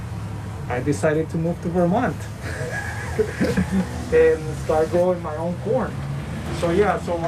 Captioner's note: laughing